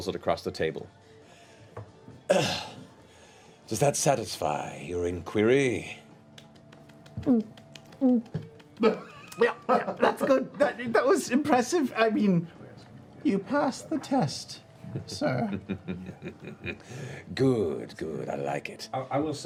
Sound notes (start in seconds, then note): 2.3 coughs; 8.0 gulp; 14.8 chuckles